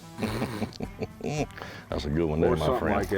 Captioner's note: chuckles